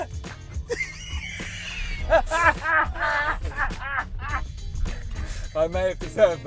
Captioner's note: laughs